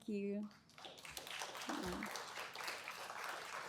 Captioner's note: applause